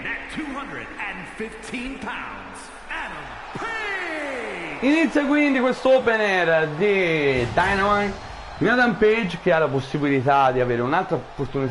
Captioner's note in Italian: Applauso